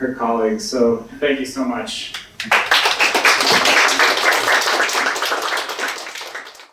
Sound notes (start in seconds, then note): 2.4 applause